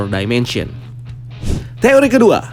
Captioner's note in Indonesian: suara transisi